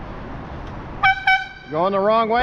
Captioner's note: airhorn